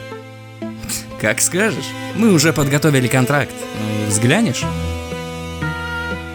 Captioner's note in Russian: хмыкает